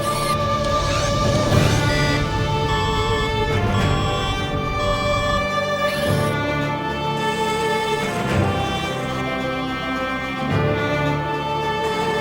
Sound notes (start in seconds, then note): 0.0 alarm tones; 0.2 lens focuses and whirs; 6.1 robot whirs; 6.9 dramatic music; 6.9 robot whirring; 9.6 dramatic music